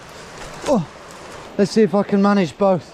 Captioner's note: grunts